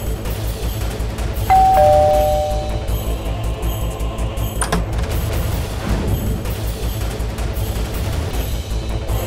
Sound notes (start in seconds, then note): 1.5 doorbell ringing; 4.6 door opens